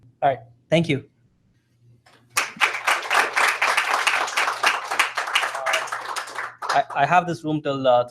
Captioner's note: applause